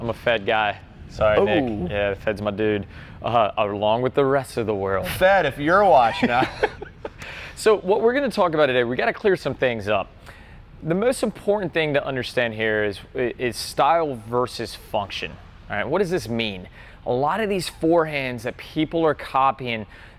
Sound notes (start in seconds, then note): 5.9 laughs